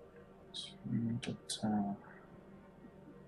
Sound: counting wordlessly

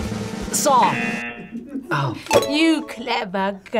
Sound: bell dings; klaxon sounds

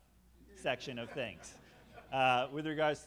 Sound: all laughing

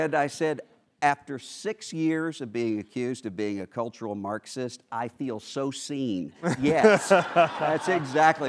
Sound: laughter

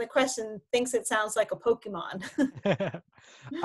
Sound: laughing

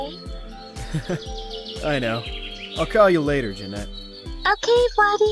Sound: chuckles

